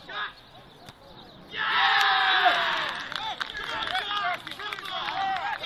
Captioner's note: crowd cheering